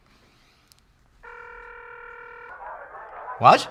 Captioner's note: phone ringing